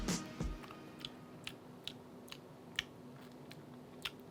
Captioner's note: smacks lips